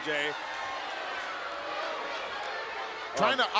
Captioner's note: crowd jeering